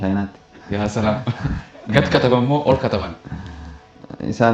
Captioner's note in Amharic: ሳቅ